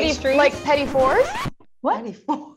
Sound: record scratching

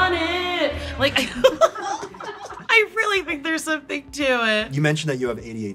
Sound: laughs

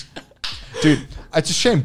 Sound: claps

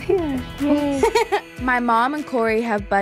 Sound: laughing

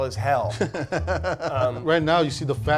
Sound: laughing

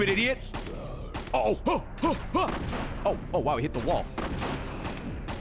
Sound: stress noises

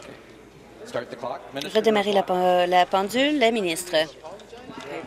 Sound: conversation din

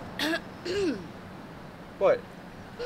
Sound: clears throat

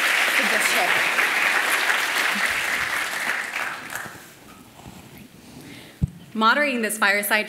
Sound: applause

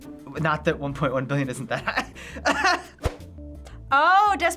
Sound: laughs

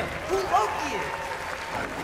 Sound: applause

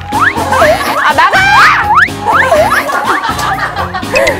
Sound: shouing to drive out dumpling robbers

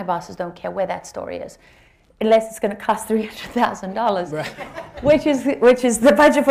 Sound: laughter

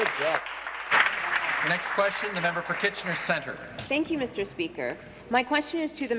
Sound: applause

